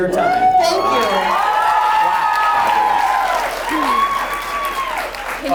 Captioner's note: audience cheers